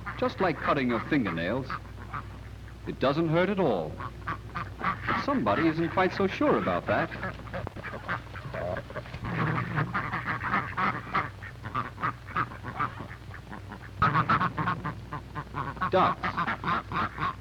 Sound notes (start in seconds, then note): 7.3 clucking and quacking